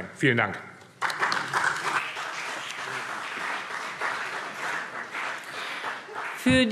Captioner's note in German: Beifall BÜNDNIS 90/DIE GRÜNEN und CDU